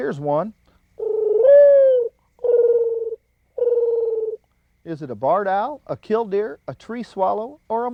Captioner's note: bird call